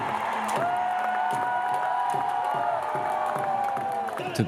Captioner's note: crowd cheering